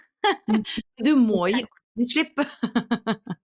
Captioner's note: laughs